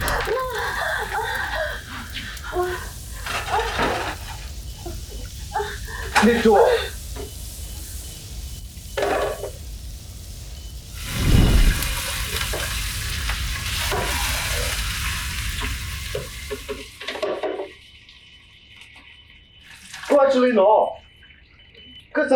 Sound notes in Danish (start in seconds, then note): 0.0 brandhøjende lyd; 3.6 røgdetektoralarm bipper; 11.0 whoosh